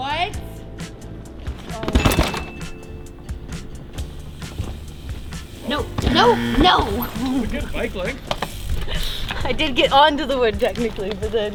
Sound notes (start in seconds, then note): 0.0 lively music; 2.0 bicycle crashing; 5.7 bell buzzing